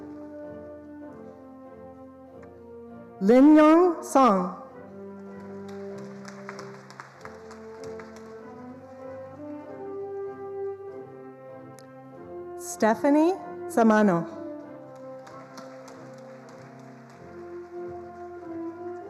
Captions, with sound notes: Linnong Song. (attendees applauding) Stephanie Samano.